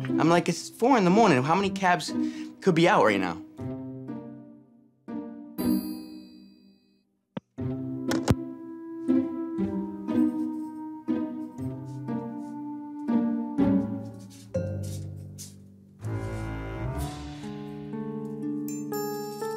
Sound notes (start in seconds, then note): 5.5 inquisitive music; 8.1 phone clicks; 9.6 inquisitive music continues